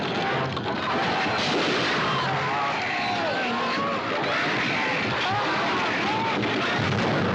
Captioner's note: Gritos